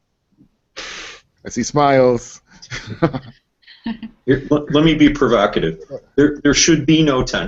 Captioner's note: laughter